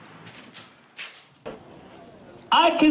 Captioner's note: cover rattling